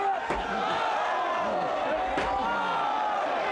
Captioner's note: crowd gasps